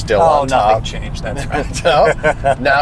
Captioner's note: laughs